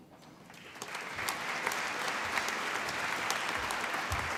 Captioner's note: applause